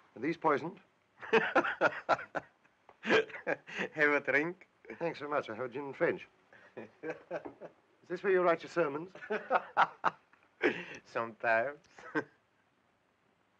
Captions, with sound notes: - Are these poisoned? (laughing) - Have a drink? - Thanks very much, I'll have a gin and French. Is this where you write your sermons? (laughing) - Sometimes.